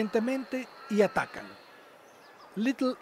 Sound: birds chirps and calls, waterfowl

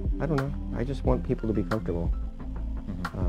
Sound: chuckles

